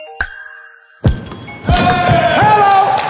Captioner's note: dunk sound